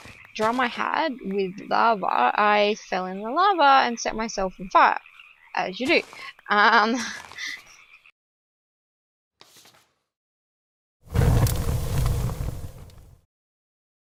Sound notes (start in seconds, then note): 7.0 laughs; 7.7 paper flip; 11.0 roaring flames